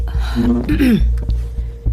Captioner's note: clears throat